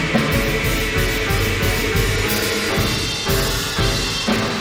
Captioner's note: crowd cheering; orchestral music